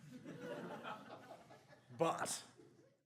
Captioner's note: audience laughs